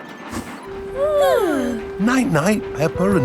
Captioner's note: both yawning